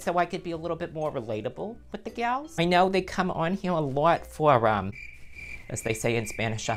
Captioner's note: crickets noise